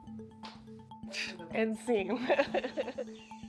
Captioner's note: laughs